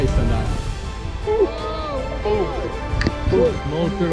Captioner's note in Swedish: Cheering